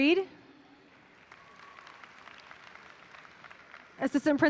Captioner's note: audience applauding